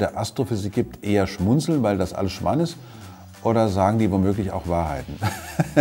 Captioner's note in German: lacht